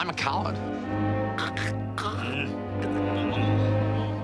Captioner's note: strangled sounds